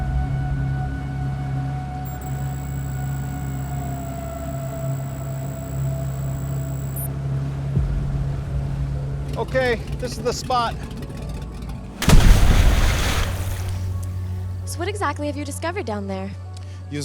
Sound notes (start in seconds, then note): 1.5 text beeping; 11.2 splashing